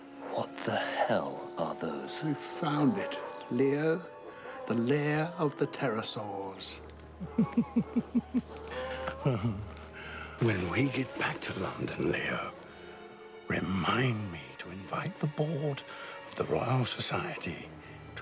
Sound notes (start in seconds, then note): 7.0 laughs